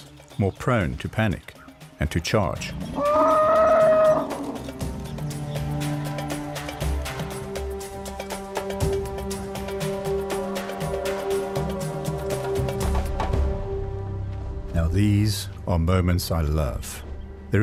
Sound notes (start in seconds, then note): 3.0 trumpets; 4.2 animals calling